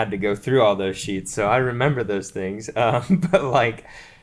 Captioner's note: laughs